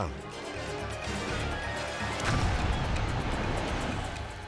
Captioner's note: suspenseful music; explosion booming